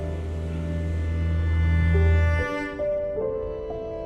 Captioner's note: engine revving